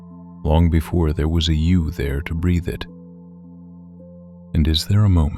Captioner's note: low voice